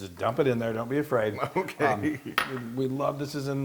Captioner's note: laugh